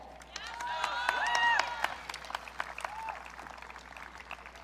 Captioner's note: audience cheering